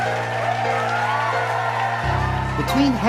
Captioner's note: audience cheers